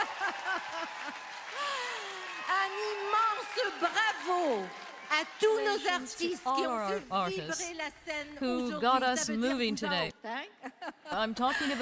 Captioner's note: applause; speaking French